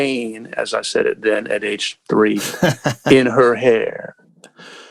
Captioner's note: laughter